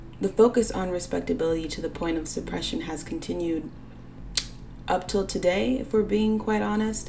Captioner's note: pops lips